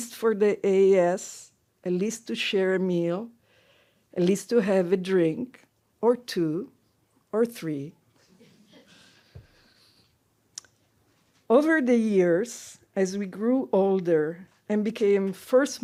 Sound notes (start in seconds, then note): 8.3 laughter